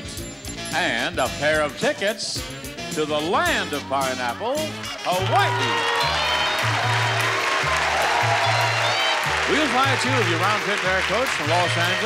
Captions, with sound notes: and a pair of tickets to the land of pineapple, Hawaii. (audience applauding) (upbeat music) We will fly two of you roundtrip from Los Angeles